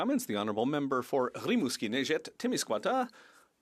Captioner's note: speaking French